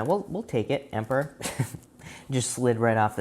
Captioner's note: chuckles